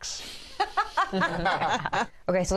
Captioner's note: laughter